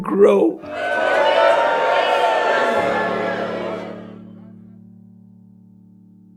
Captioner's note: applause